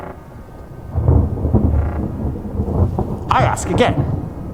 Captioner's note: thunder claps